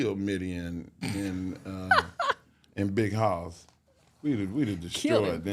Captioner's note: hostess laughs